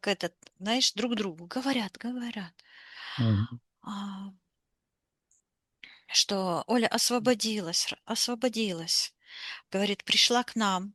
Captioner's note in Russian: вздыхает